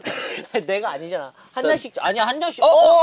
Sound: ding

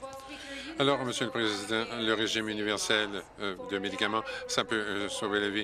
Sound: applause

